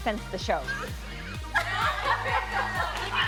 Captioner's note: laughter